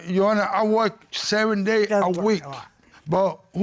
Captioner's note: mumbles